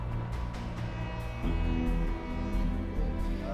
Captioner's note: horn fading